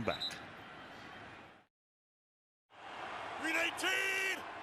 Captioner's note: whistle